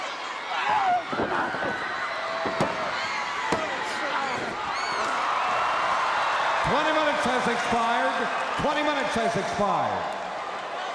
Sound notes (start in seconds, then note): 0.6 wrestlers grunting; 2.8 mat banging; 4.3 audience roaring